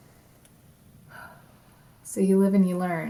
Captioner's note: sighs